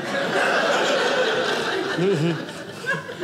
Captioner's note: audience laughing